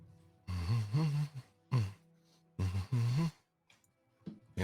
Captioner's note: humming